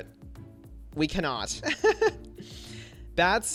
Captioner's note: laughs